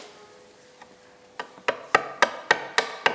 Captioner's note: knock